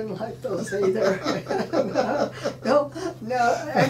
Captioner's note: laughing